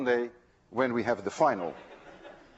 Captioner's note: class laughs